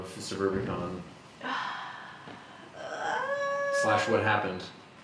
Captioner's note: sigh